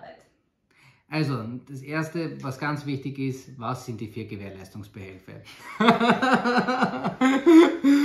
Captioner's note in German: lacht